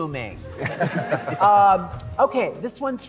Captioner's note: laughter